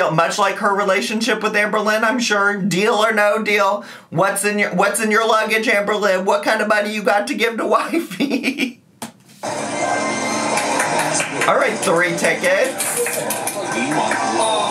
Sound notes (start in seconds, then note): 7.8 laughing